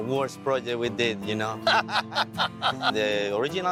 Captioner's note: everyone laughing